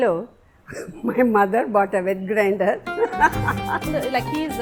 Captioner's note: laughs